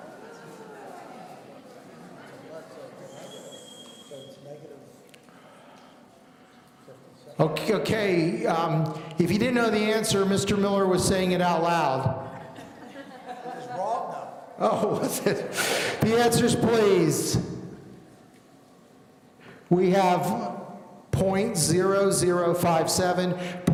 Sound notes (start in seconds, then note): 1.8 people in the audience conversing; 12.3 laughing